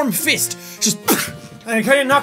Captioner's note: punch sound